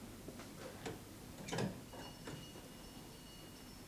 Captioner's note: distant bell rings